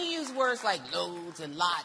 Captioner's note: applause